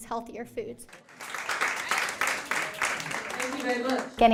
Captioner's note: applause